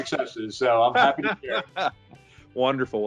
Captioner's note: laughing